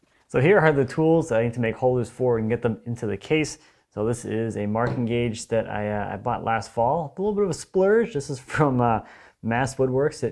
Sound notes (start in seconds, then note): none